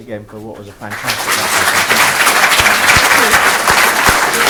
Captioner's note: audience applauding